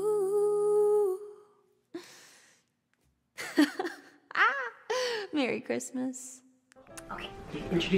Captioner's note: giggles